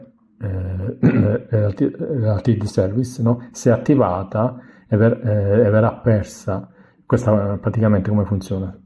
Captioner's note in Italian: schiarire la voce